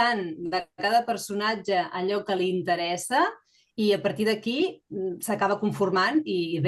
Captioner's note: continues speaking in Catalan